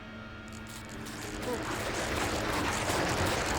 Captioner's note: tearing, Grinding